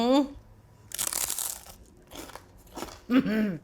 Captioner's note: crunches